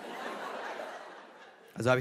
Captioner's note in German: Lachen